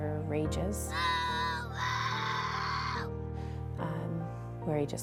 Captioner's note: screaming